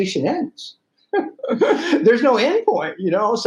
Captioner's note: laughing